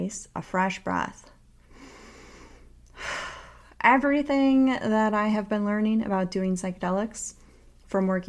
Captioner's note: breathes in and out